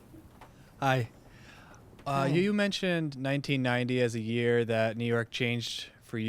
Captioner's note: voiceover